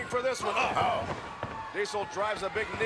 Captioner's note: commentators exclaim